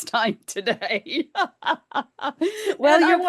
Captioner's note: laughs